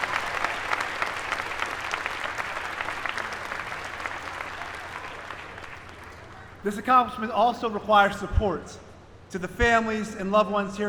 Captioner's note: applause